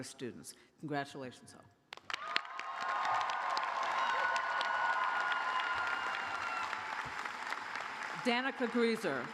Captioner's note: cheers and applause